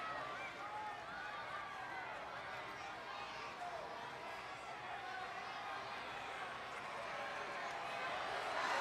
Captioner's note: applause